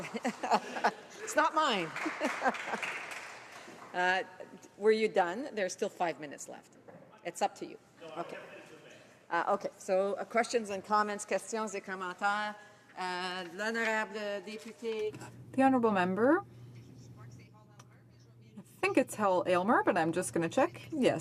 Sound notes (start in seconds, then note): 5.1 laughter; 18.1 speaking French